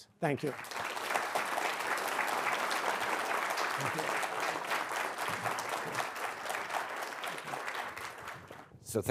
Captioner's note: applause